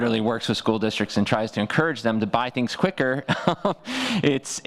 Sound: laughs

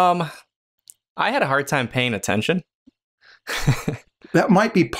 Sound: chuckles

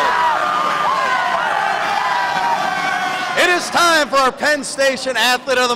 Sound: cheers

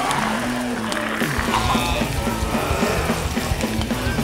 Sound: zombies groaning; flesh crackling; upbeat punk music

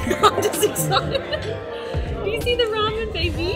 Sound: laughing

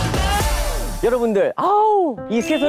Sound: exclaiming

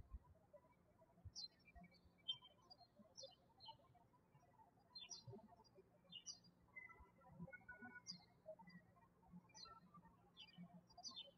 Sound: bird chirping

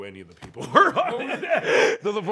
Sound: laughs

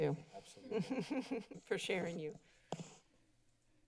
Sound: laughter

